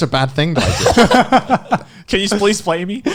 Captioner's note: all laughing